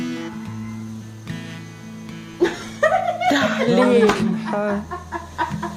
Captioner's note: laughter